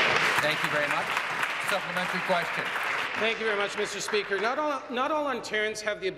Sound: applause

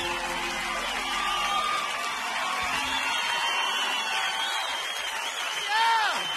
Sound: audience cheering

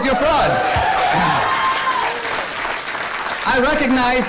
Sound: audience cheering and applause

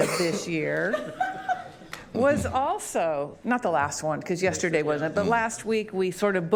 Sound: laughter

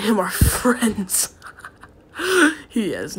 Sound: chuckles

